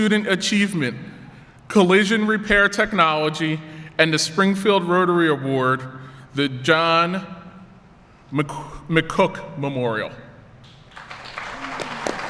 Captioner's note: applause